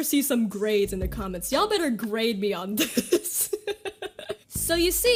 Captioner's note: laughs